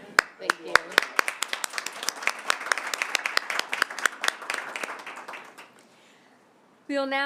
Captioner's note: applause